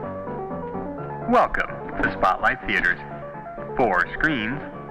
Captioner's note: man On PA